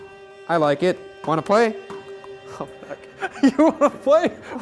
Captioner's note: laughing